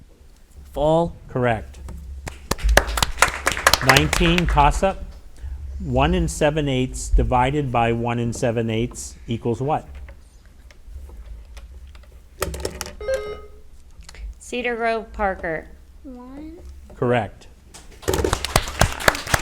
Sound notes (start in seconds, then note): 2.2 audience applauds; 13.0 bell rings; 18.0 audience applauds